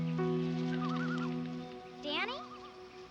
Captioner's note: birds hooting; wings flapping